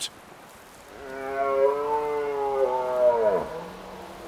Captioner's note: deer wailing